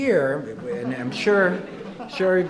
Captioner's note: audience laughing